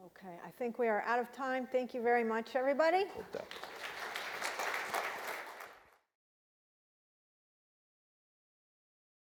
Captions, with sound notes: - Okay I think we are out of time, thank you very much everybody. (audience clapping)